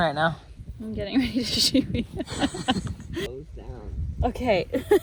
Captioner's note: laughs